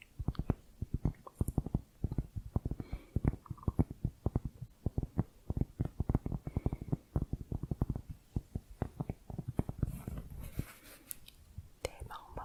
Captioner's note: tapping on cork